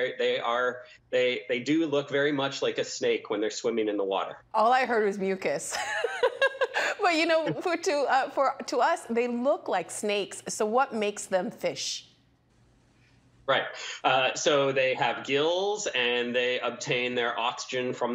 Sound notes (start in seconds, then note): 5.7 laughing